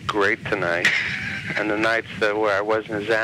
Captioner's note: laughs